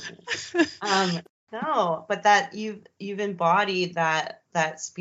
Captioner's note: both laughing